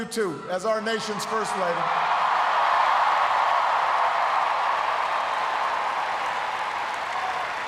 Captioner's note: cheers, applause